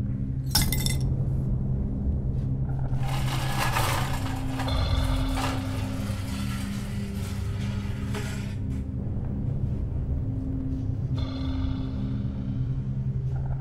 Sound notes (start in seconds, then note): 0.5 nails clanking; 2.9 chair scraping